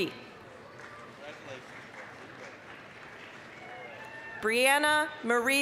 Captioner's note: applause